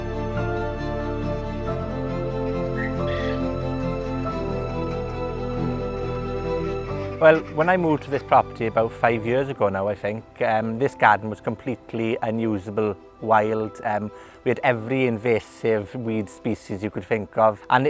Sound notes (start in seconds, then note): 2.7 ducks quacking